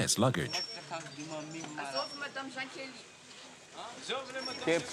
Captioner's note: Malagasy spoken audio